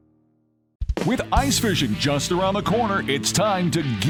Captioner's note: voiceover